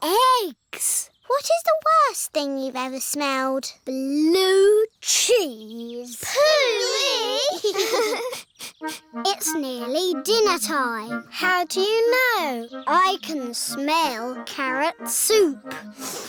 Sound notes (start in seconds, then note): 6.2 giggling; 8.2 sniffs